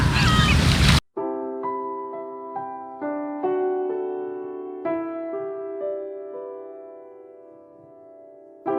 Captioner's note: flute sounds; laugh